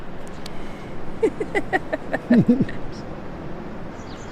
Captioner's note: laughing